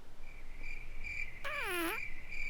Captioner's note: crickets chirping; blows raspberry